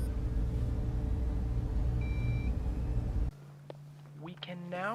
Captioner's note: machinery beeping